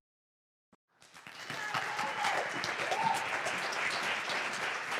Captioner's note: applause and cheers